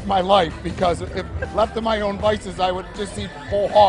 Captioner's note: laughter